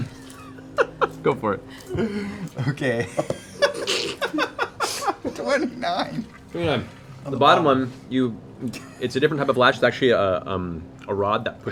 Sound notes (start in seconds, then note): 4.3 laughs